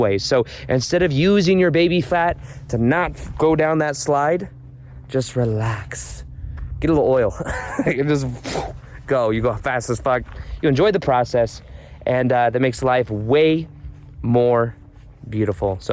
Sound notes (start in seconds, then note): 7.3 laughs; 9.4 mimcs whooshing